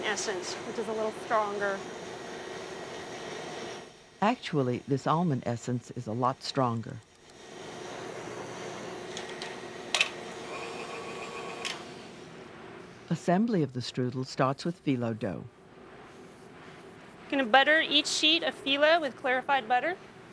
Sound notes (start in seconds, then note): 4.1 voiceover